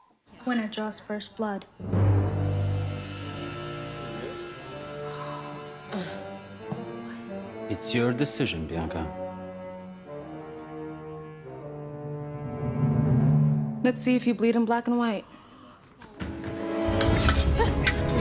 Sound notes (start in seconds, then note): 1.9 suspenseful music; 5.5 scoffs